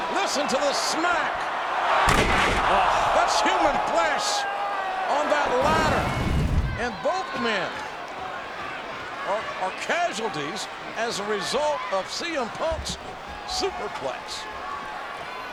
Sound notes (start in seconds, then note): 1.8 audience groans; 2.0 body thuds